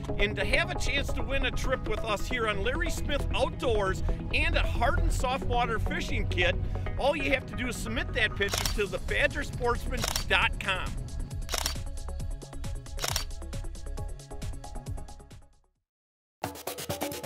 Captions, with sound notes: And to have a chance to win a trip with us here on Larry Smith Outdoors and a hard and soft water fishing kit, all you have to do is submit that picture to the BadgerSportsman.com. (camera clicking)